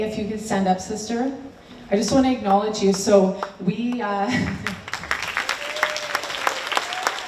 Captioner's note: applause